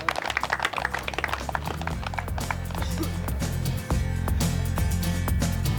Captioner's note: clapping